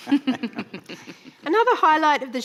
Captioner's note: laughing